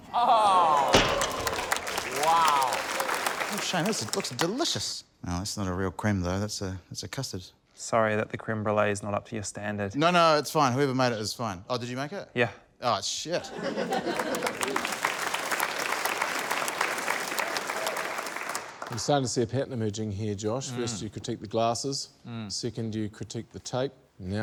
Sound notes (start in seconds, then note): 13.4 laughter; 15.3 applause